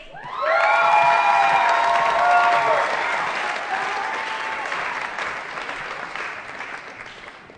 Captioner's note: applause & Cheering